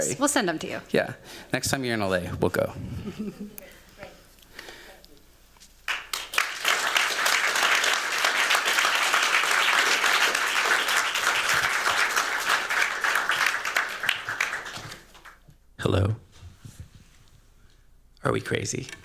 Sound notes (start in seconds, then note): 5.9 applause